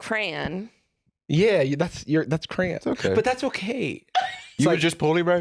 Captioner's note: laughs